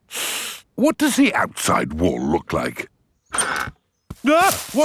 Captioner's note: inhales sharply